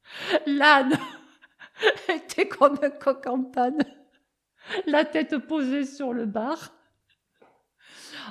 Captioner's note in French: rires